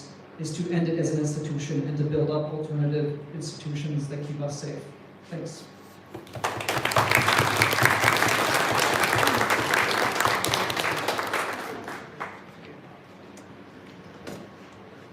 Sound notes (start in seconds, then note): 6.2 applause